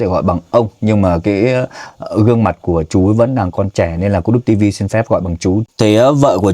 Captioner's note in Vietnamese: khịt mũi